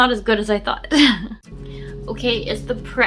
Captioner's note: laughs